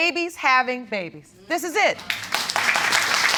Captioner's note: audience applauding